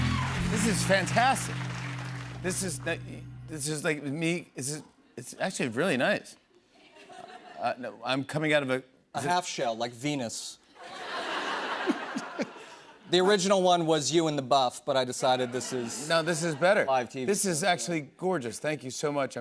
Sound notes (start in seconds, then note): 10.8 laughter